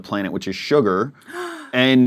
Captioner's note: gasp